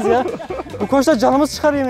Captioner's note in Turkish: Gülüşmeler